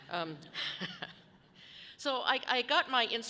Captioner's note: laughs softly